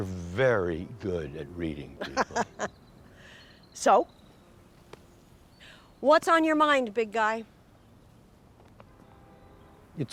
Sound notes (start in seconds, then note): 2.0 Miriam chuckling